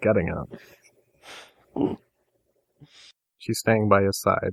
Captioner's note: chuckles